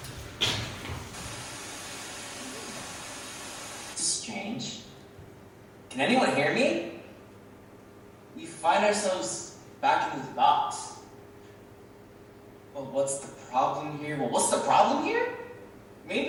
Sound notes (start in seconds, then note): 1.0 TV static plays